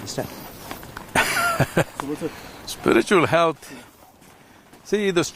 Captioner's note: laughs